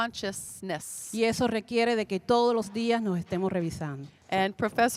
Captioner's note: Spanish language 00:39:35